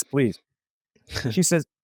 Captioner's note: laughs